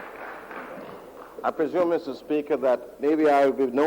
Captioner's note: applause